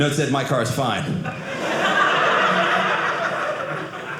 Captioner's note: audience laughing